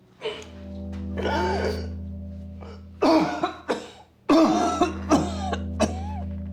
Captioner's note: Rico coughing and wheezing